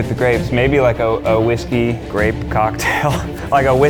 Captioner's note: laughs